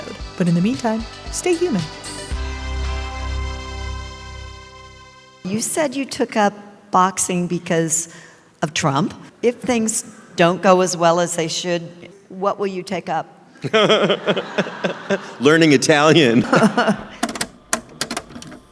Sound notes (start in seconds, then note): 17.2 cassette tape player clicks close